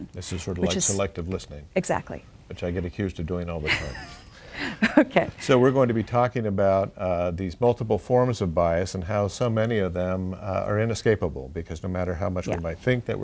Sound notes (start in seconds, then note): 3.6 laughs